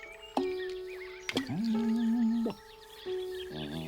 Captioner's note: humming